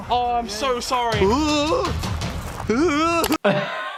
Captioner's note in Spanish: ruidos de gemidos